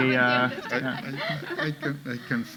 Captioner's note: authors laughing